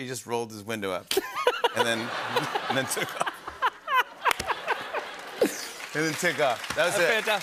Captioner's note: laughter